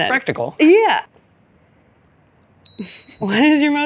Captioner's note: bell ring